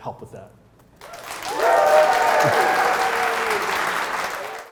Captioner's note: applause